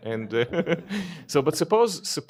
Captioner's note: laughter